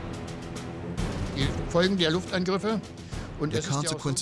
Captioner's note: speaking german